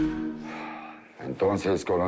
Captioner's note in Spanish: Lisandro exhala